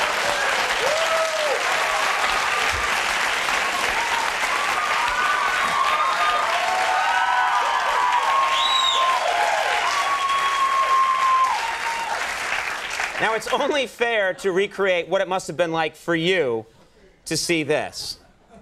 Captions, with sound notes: (applause) (crowd cheering) Now, it's only fair to recreate what it must have been like for you to see this.